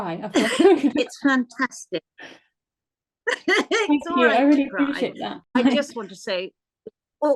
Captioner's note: laughter